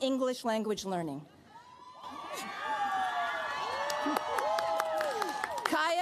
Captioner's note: cheers, applause